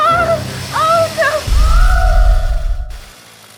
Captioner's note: screaming